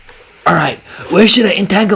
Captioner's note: tuber voice